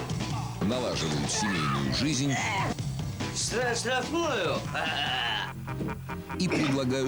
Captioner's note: laugh